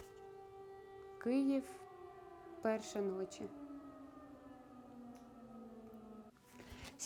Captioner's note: sounds of the air alert